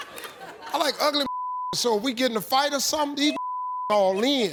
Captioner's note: beep